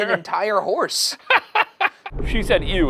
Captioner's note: laughing